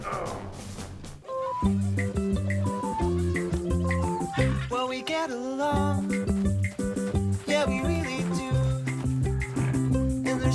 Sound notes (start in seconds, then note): 1.2 animals Calling